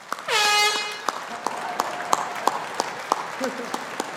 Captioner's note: audience applauding; airhorn blows